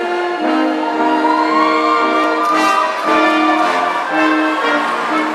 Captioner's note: audience cheering